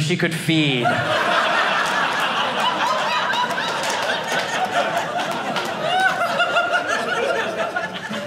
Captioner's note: audience laughing